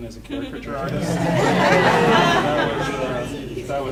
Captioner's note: audience laughing